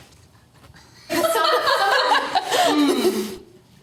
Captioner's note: laughter